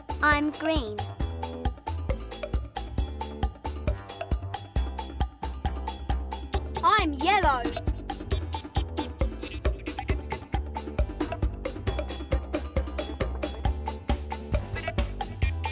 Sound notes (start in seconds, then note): none